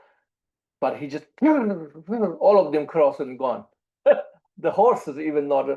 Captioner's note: laughs